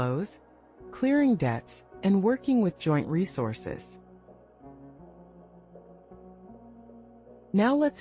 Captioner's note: pause